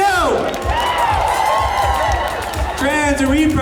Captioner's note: cheers